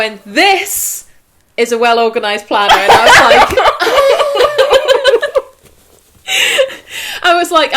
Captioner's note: laughter